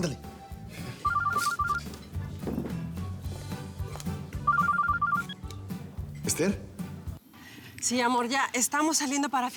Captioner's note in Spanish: Suena el celular